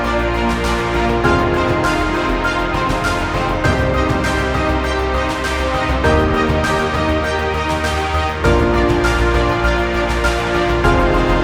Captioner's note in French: applaudissements